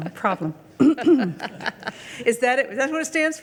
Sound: clears throat; laughs

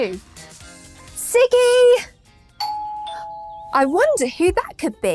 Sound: doorbell rings

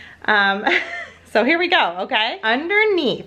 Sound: laughs

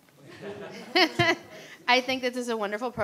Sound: everyone chuckling

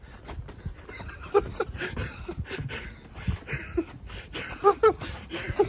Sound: dad laughing

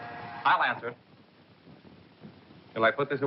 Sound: buzz

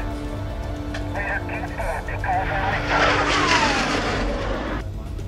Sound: radio chattering

